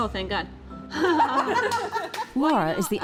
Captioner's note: group laughs